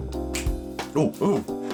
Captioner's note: snaps Finger